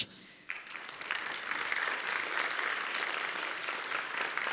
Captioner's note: audience applauds